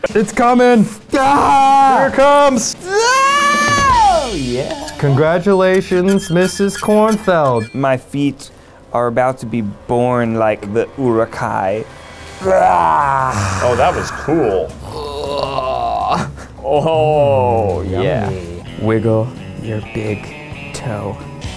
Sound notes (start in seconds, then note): 1.1 screaming; 10.1 speaking in foreign language; 12.4 groaning; 14.8 groaning